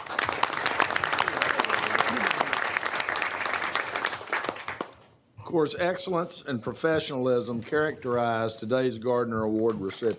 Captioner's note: applause